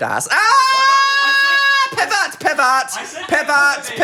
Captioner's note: screams